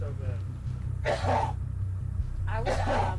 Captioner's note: coughs